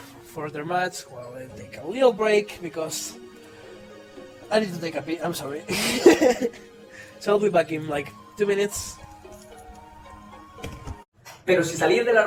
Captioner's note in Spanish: Risas